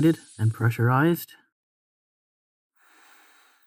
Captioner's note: the hiss dies